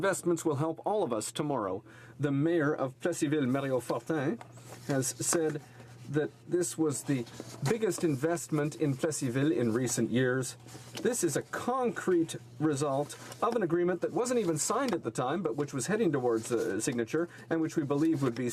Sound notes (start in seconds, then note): 3.3 speaking French